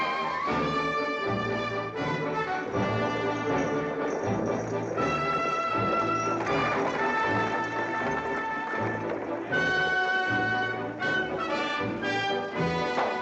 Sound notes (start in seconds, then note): 2.4 buggy rattling; 9.5 triumphant music